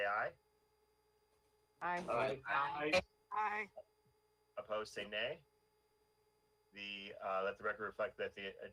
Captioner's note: in Unison